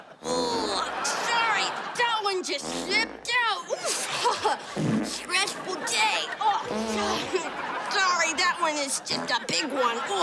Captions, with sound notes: Oh, sorry. That one just slipped out. [farting] Stressful day. [farting] Sorry, that one is just a big one.